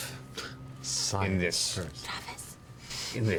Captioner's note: scoffs